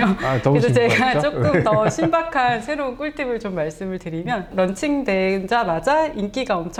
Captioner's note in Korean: 웃음